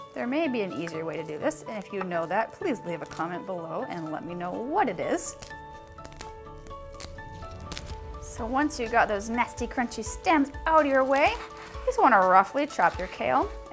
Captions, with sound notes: There may be an easier way to do this, and if you know that please leave a comment below and let me know what it is. (crunching) So, once you've got those nasty, crunchy stems out of your way, you just wanna roughly chop your kale